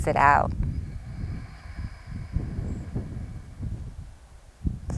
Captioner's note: exhales deeply